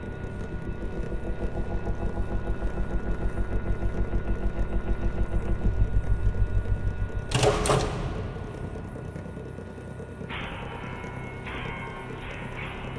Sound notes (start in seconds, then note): 7.3 lights clicking; 10.5 soft music